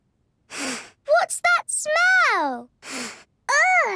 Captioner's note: sniffs; sniffs